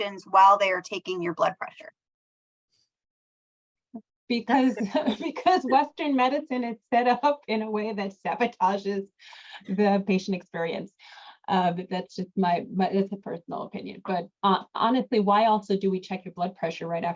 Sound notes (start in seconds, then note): 4.5 laughs